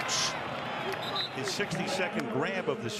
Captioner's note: whistle